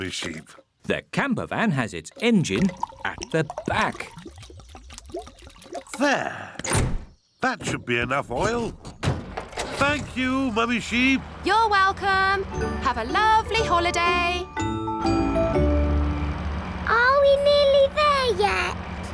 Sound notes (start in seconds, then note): none